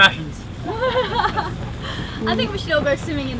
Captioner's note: laughs